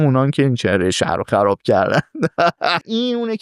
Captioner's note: laughs